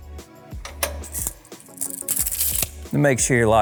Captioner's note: machine clicks